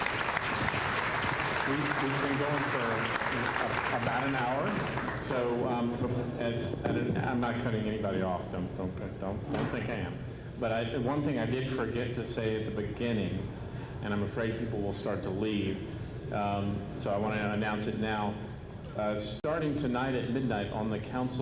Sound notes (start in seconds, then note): 2.5 applause